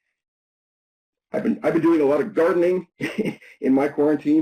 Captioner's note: chuckles